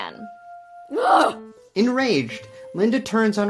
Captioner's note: Linda grunts